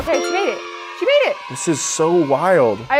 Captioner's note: kids cheering